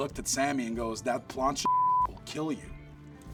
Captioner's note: beep